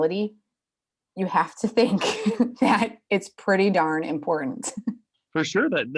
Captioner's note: laughs